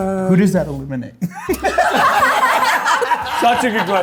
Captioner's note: group laughs